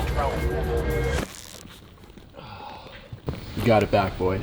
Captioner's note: chair squeaks and man 1 sighs